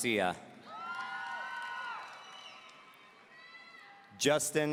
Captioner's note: audience cheering